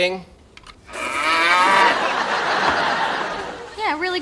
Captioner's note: cow mooing